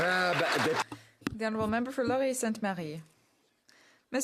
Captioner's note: some Applause